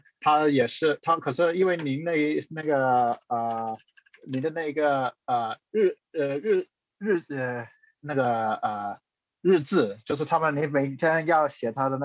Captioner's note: speaking chinese